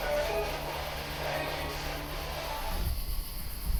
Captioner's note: spirit box voice; spirit box stops